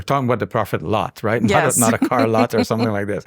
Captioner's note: chuckles